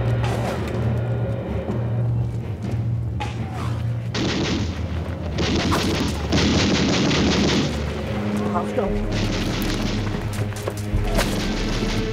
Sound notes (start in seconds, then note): 0.2 suspenseful music; 4.1 guns firing